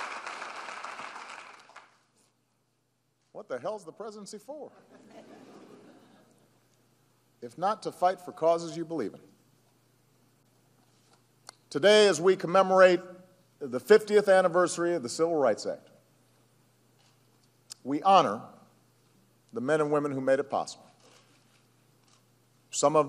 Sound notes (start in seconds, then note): 4.8 laughter and applause